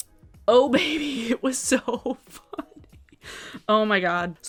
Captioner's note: laughs